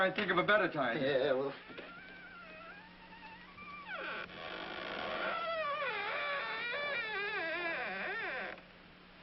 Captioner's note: door creaking